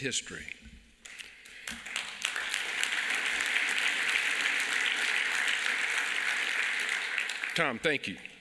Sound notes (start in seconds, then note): 3.8 applause